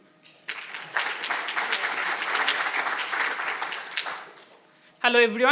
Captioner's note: audience applauding